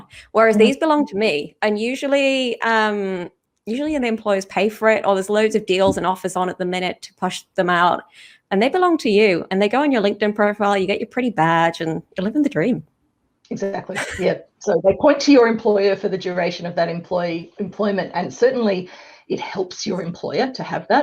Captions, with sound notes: Whereas these belong to me, and usually, um... ..usually, employers pay for it, or there's loads of deals and offers on at the minute to push them out, and they belong to you, and they go on your LinkedIn profile, you get your pretty badge and you're living the dream. - Exactly. Yep. - (CHUCKLES) So, they point to your employer for the duration of that employment, and certainly, it helps your employer to have that,